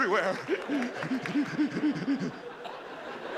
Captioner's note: breathing rapidly